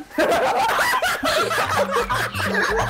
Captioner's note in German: Gelächter